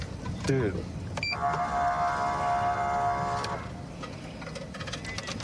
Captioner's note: horn blaring